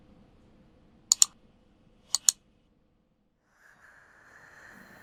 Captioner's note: clicks